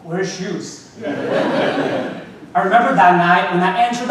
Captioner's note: audience laughing